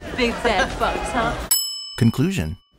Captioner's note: bell rings